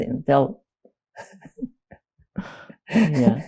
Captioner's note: laughing